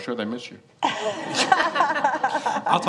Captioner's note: laughter